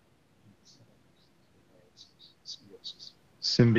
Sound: students whispering

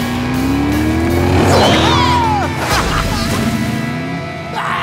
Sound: cheering; screaming

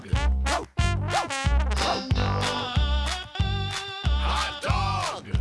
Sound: pluto barking

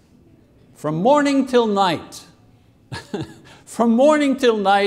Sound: chuckles

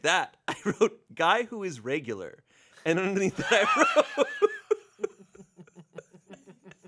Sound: laughs

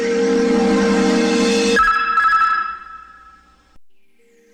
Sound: communication signals dialing

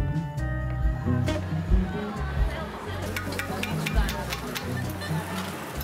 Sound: din of crowd, utensil tapping

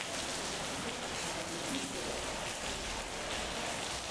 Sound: sounds of rain

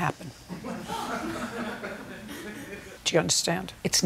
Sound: light laughter

